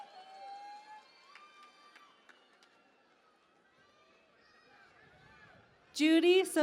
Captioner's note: cheering and Applause